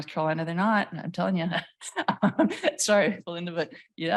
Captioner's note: laughs